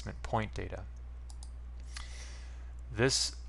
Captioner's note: mouse click